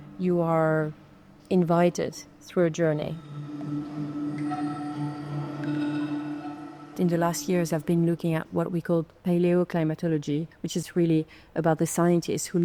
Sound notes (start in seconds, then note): 3.0 pensive music continues; 3.6 water dripping